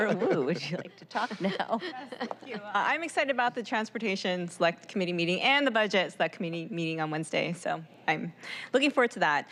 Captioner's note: laughter